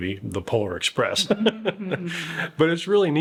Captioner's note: laughing